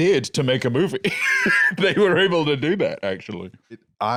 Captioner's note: laughs